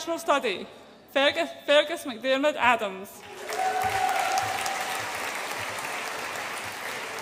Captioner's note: audience applauds and cheers